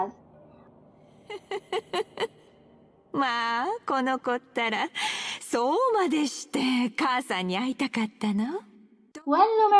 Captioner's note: laugh